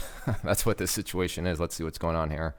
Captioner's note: laughing